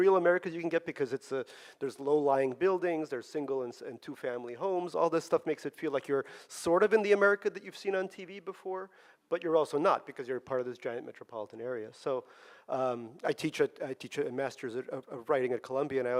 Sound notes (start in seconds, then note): none